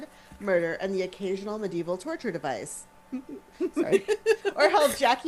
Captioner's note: giggles